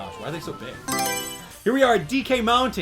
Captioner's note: Mario Selection Sound